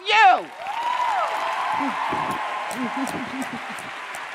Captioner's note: audience cheering